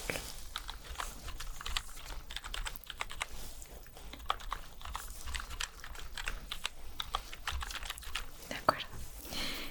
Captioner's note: typing sounds